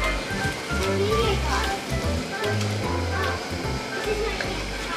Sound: background chatter

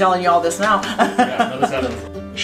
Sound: laughing

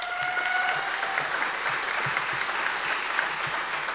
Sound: audience applause

